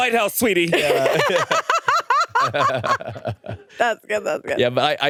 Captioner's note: laugh